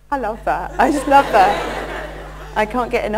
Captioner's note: laughter